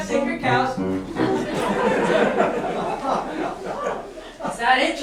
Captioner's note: laughter